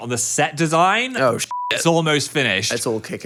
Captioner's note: beep